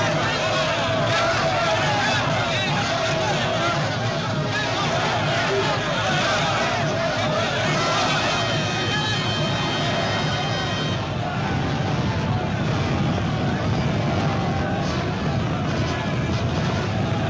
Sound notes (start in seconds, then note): 12.1 flames crackling